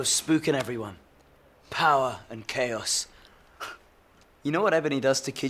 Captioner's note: laughs